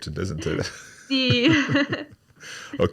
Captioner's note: laughing